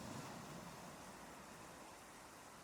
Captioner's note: waves crashing